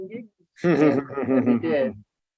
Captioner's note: laughing